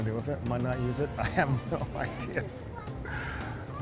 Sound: chuckling

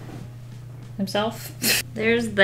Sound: laughs

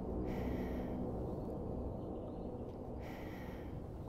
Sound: deep sighing

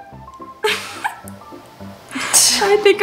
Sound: laughs

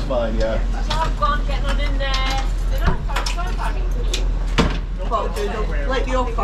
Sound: women talking and setup noises

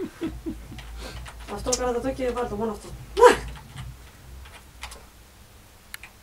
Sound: laughter

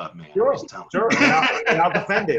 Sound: laughs

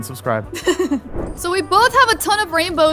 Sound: laughs

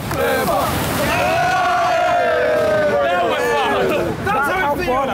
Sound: all cheering

